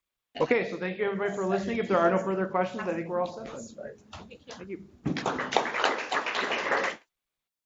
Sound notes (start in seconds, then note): 5.0 group clapping